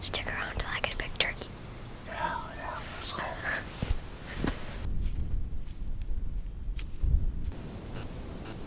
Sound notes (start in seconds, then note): 4.6 wind rustling